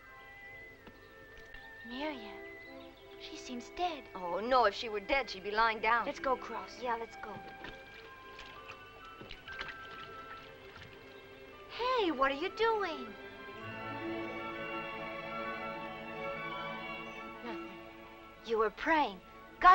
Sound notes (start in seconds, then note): 9.2 water splashing; 13.6 bright music